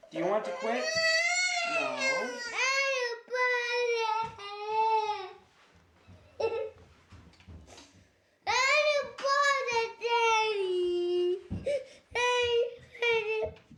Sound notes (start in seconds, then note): 0.4 wailing; 5.6 crying